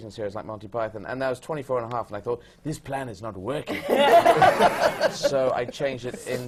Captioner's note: laughter